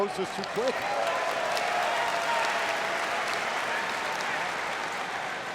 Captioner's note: audience applauds